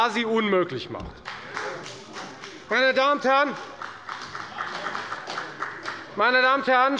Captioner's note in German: Beifall bei der FDP und bei Abgeordneten der CDU